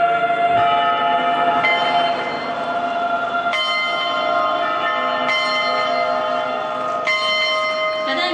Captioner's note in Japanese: 歓声・鐘の音; 鐘の音